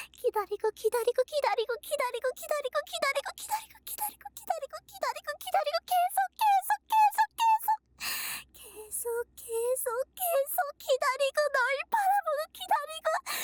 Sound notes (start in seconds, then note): 8.0 inhale